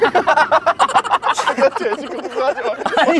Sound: laughing

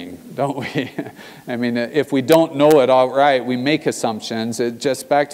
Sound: laugh

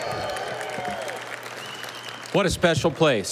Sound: audience applauding

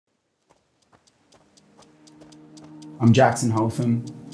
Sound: clock ticking

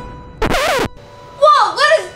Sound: record scratching

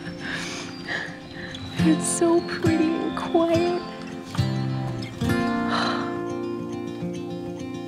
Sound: happy sigh

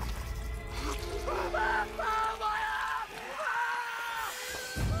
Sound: screams

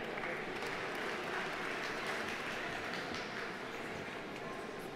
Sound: audience applauding

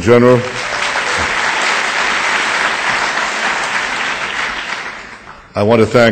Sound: audience applause

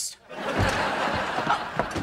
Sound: laughing

